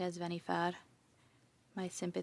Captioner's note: speaking French